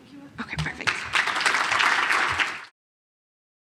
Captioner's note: applause